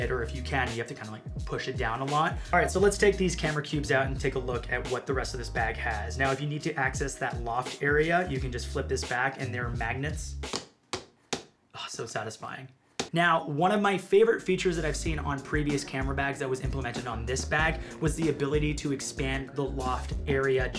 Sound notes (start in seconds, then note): 10.5 magnets tapping